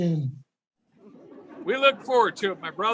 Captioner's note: audience laughing